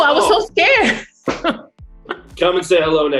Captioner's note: laughs